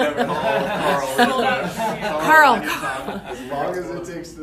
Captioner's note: laughs